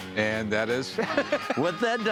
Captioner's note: laughs